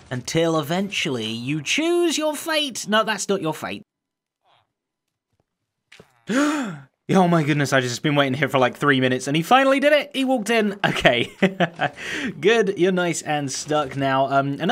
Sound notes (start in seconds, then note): 6.3 sharp intake of breath; 10.8 chuckles